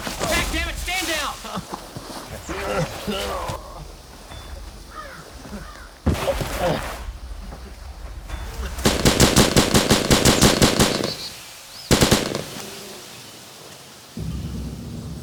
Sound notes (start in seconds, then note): 2.2 groaning; 8.8 gun firing